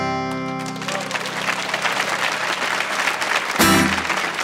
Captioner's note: audience applauds; punchy acoustic guitar music